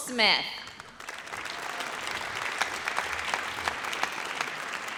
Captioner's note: audience applauds